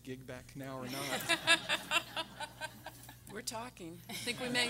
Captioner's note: everyone laughing